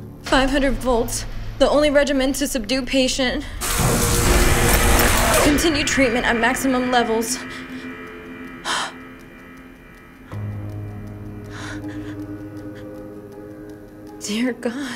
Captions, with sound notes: 500 volts, the only regime to subdue patient. (electric buzzing) Continue treatment at maximum levels. Dear God.